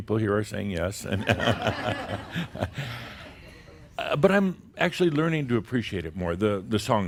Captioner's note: some chuckles